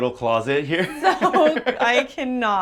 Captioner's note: both laugh